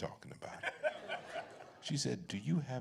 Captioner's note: laughter